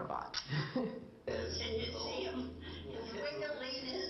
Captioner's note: woman laughs